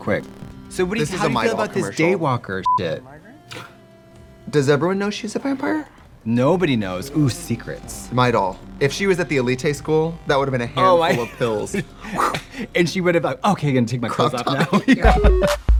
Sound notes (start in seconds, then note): 2.6 beeping; 10.8 Katya laughing; 12.3 imitates whooshing